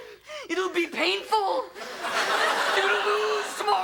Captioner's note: audience laughs